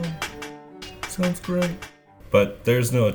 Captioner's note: metallic clapping